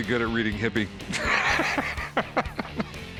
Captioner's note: laugh